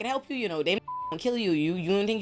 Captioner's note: beep